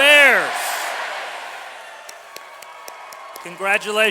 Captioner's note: clapping